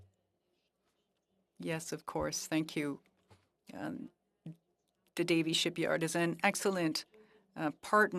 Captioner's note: speaking French